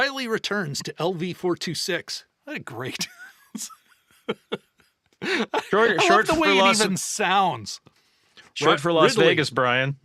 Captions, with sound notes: Riley returns to LV-426. I think great. [LAUGHTER] Short for Las Vegas. I love the way it even sounds. Short for Las Vegas, Brian.